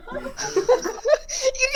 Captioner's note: soft laughter